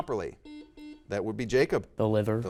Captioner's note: buzzer dings